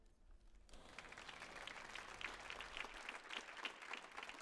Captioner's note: audience applauds